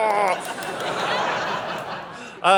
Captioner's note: audience laughing